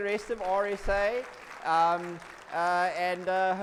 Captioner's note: audience applauds